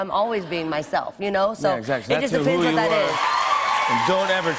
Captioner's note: cheers and applause